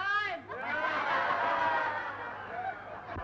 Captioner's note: cheering